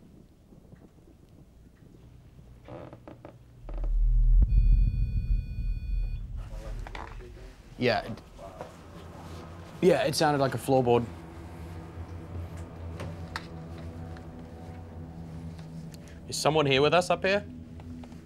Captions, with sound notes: [CREAKING] [BEEPING] Yeah. Yeah, it sounded like a floorboard. Is someone here with us up here?